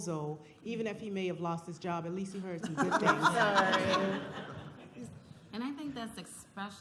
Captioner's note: laughter